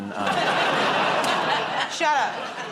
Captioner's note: laughter